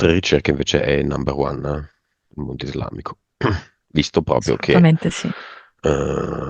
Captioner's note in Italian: schiarire la voce